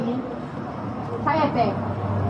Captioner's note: speaking foreign language